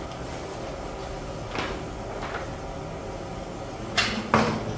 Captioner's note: covering paper noise; press machine noise